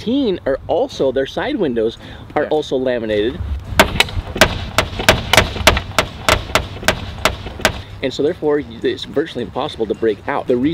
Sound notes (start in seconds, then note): 4.3 fists hammering